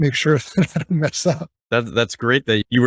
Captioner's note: chuckling